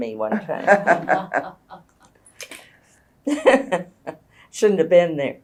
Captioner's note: laughter